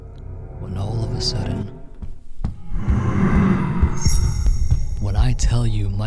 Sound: footsteps running upstairs towards accompanied by a Demonic Grow

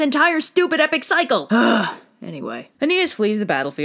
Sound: sigh of anger

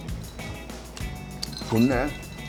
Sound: gulp gulp

